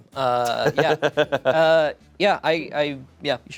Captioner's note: chuckles